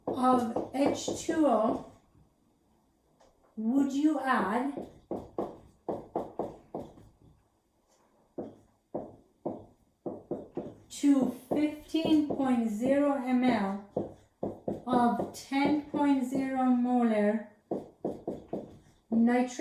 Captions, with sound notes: Of H2O would you add -- [ Writing Sounds ] To 15.0 mL of 10.0 molar nitric acid, HNO3,